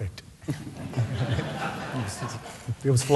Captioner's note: laughs